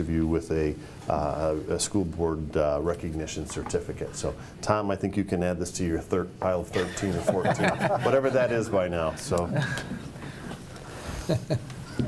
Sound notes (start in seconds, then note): 10.2 laughs